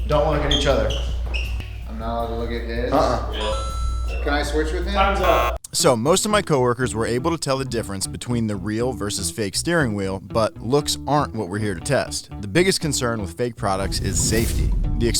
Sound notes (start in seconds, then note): 3.3 bell dings